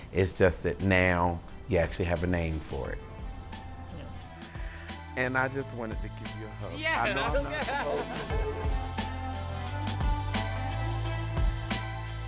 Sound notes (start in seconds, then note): 6.9 laughing; 10.0 gentle music